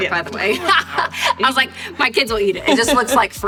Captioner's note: laughs